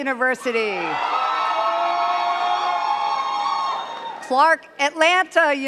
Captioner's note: cheers and claps